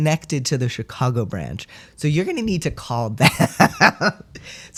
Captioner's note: laugh